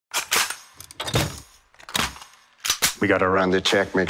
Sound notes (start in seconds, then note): 0.0 cocks gun